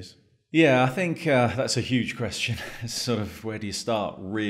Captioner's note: sighs